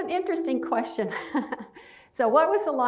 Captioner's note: laughs